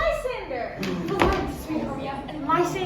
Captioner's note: crowd gasps